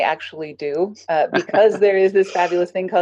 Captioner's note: laughs